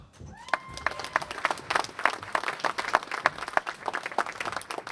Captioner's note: applause